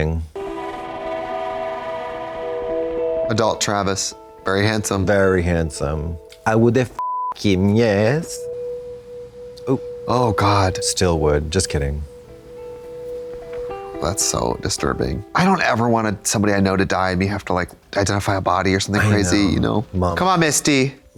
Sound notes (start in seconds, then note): 0.3 somber music; 7.0 beep